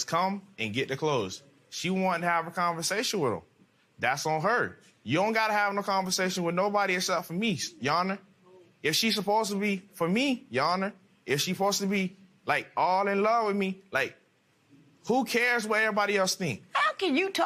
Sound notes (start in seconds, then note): none